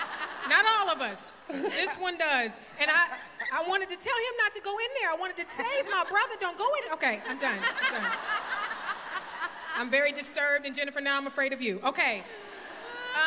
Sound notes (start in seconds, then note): 0.0 laughter; 7.3 laughter